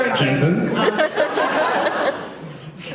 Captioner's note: laughs